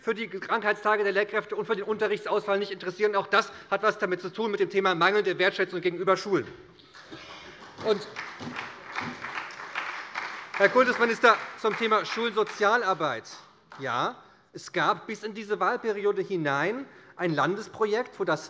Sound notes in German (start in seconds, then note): 7.3 Beifall bei der SPD